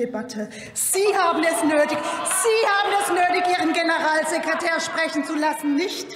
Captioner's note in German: Lachen bei der CDU/CSU